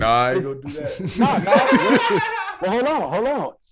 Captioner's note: laughing